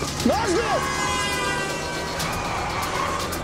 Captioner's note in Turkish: Korna sesleri